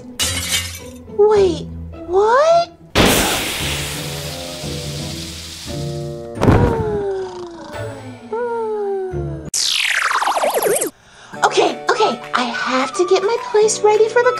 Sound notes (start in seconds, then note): 0.2 glass shatters; 6.4 snoring